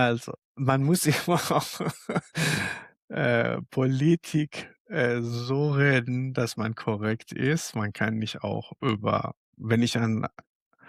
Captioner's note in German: gelächter